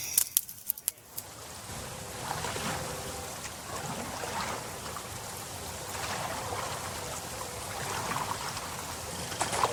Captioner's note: paddling sounds